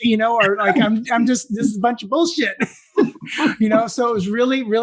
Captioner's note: laugh